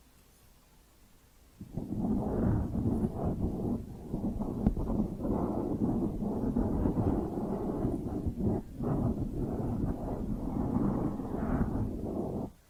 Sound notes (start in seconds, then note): 1.6 mic scratching